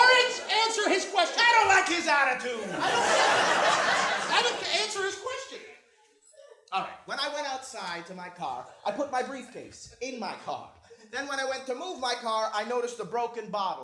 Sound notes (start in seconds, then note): 2.6 laughter